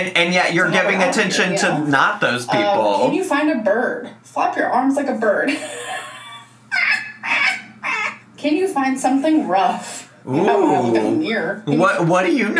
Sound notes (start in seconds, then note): 6.7 squawks